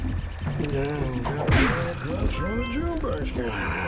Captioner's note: farmer snoring